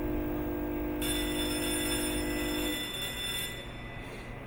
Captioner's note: alarm ringing